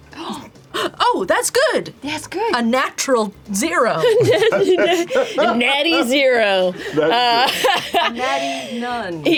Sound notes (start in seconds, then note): 4.0 laughs